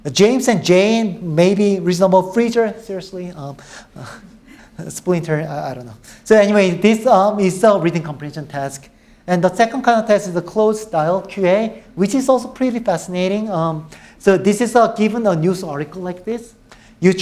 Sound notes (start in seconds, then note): none